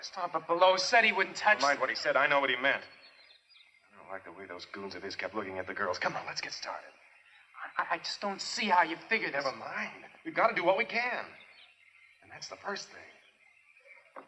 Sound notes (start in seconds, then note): none